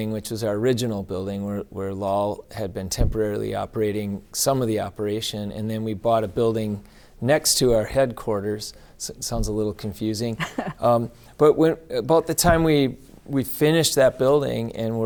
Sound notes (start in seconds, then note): 10.4 laughing